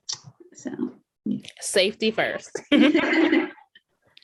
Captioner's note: laughter